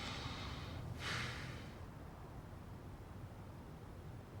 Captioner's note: husband sighs